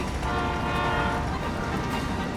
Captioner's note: train whistle